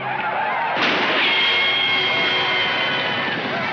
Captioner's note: gunshot firing